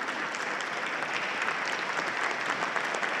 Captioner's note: applause